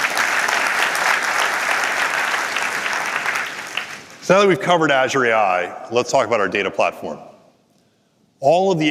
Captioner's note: applause